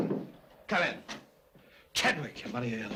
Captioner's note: door opens